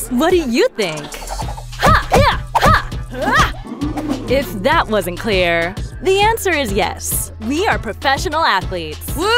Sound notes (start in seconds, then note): 3.0 grunts